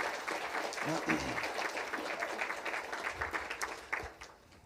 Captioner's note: applause